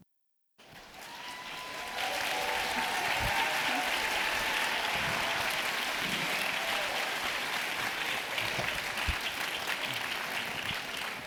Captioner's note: applause